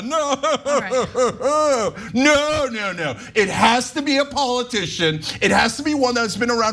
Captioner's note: laugh